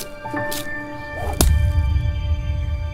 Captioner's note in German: Schlag-Geräusch